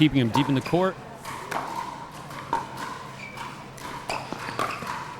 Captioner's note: ball clacking